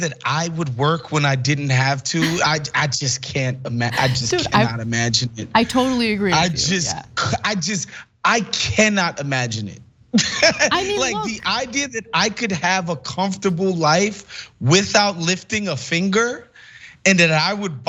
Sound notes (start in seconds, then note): 10.4 laugh